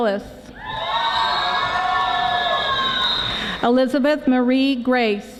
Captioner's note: audience screaming